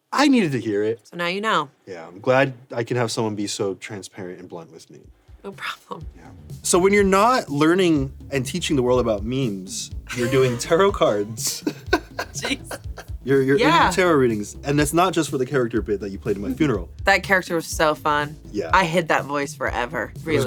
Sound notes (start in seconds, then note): 10.1 everyone laughs